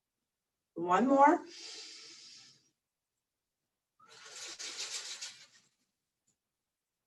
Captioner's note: deep breath